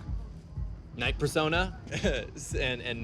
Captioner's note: laughs